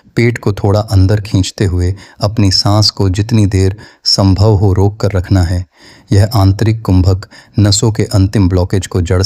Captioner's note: spiritual breathing